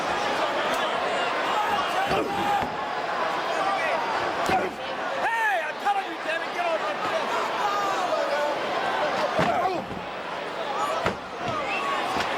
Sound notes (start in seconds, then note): 1.7 fighters grunting; 2.5 crowd chattering; 7.1 crowd chattering; 7.1 punches thudding